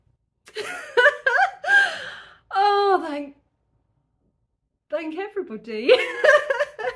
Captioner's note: laughing; laughing